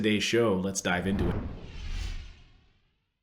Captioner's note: whoosh